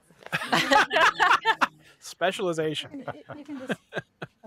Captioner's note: laughter